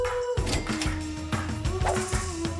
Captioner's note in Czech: Cinknutí pokladny